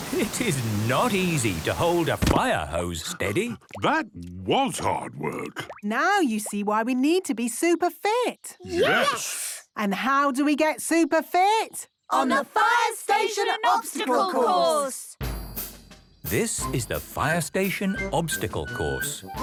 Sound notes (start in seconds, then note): 3.9 panting